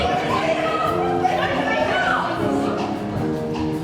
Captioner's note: overlapping shouting